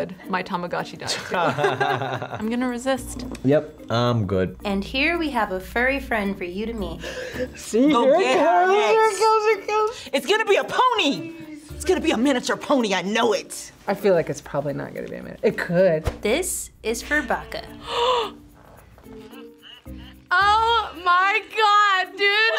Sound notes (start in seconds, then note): 1.1 both laugh; 7.0 gasps; 19.1 gasps